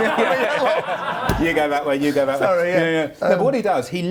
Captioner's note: laughs